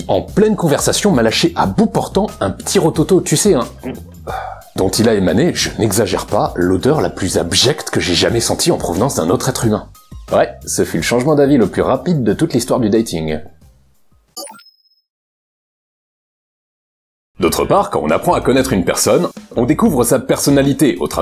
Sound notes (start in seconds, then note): 3.7 burp pff